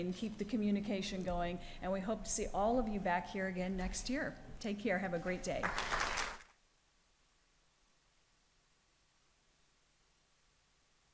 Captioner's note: applause